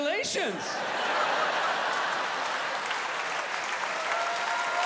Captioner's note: audience laughing; audience cheering